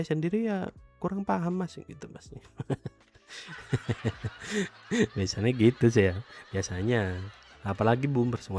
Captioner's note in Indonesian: tertawa